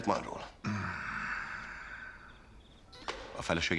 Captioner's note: beeping